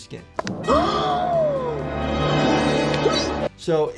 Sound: gasping

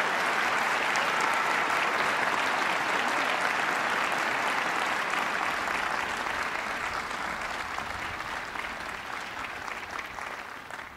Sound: cheers and applause

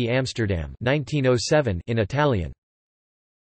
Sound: in Italian

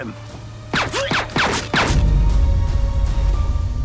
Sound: gun shoots; dramatic music

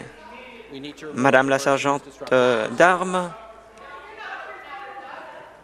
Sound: woman shouting

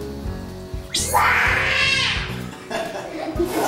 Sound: screams; laughs

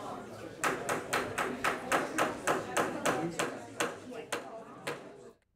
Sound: audience chattering; gavel banging

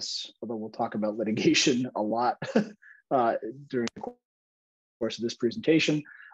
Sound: laughter

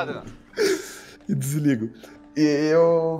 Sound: laughs

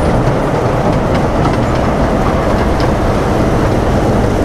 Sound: train clanking

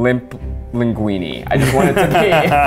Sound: laughs

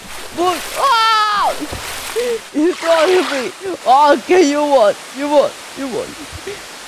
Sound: screams

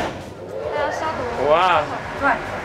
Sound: door clanks; workers speaks Mandarin; wind whirs

